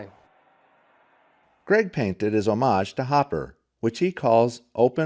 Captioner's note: voiceover